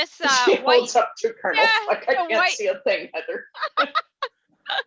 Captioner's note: laughing